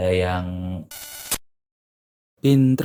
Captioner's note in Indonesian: suara interferensi